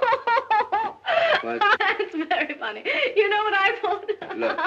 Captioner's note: gasping